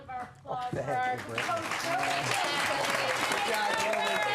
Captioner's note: applause and cheering